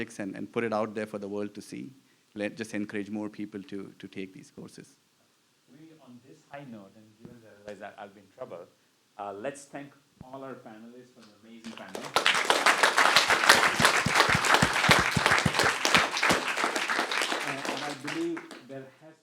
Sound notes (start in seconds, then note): 9.9 applause